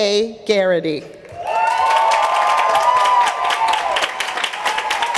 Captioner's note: applause